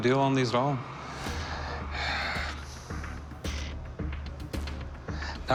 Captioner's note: sighs